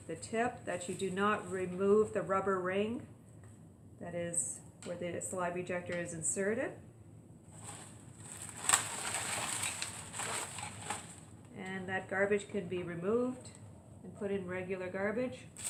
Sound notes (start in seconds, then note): 7.5 crackling sound